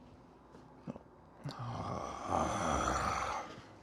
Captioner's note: groans